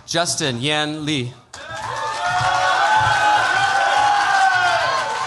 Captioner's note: cheers, applause